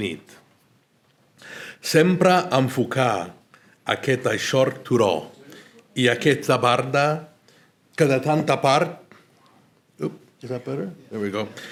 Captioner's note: Spanish translation of L'Infinito is recited